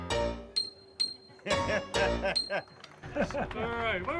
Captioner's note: laughs